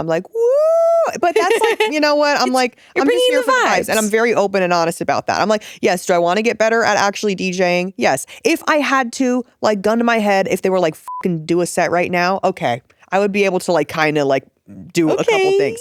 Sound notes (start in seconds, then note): 11.0 beep